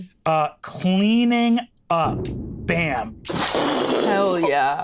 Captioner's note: imitates explosion booming